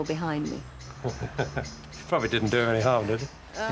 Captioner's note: interviewer laughs